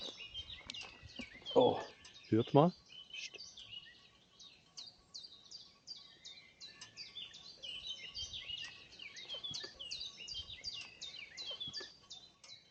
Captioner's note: chirping birds